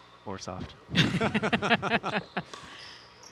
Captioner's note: laughing